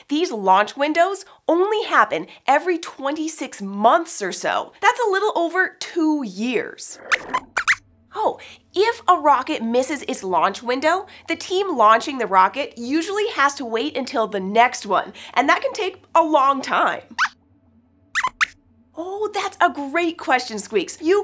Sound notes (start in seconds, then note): 7.0 squeaks squeaks; 18.1 squeaks squeaks